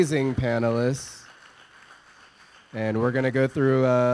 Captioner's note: audience applause